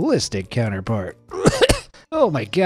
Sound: narrator coughs

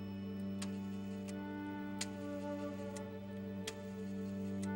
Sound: phone dial clicks

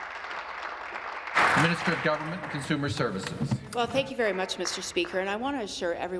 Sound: applause

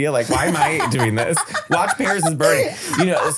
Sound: laughing

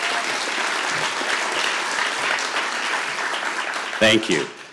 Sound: applause

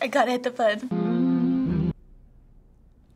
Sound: humming

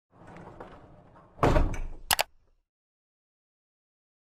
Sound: mechanical clicking

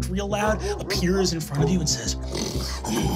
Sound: growls

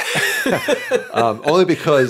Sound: both laughing

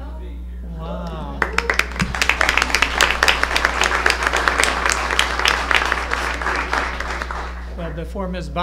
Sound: applause

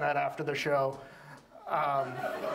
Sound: audience laughs

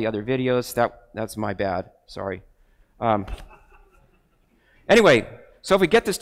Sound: crowd laughs

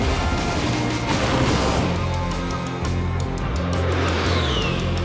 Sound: gun buzzing; explosions booming

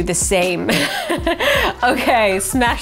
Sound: laughing

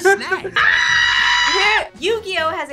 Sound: screams

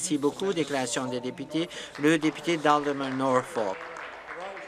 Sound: some Applause

